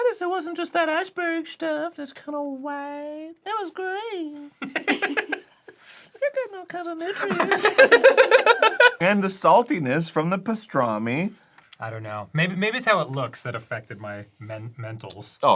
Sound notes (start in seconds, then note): 4.6 laugh; 7.1 everyone laughs